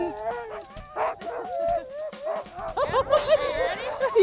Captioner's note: sled dogs barking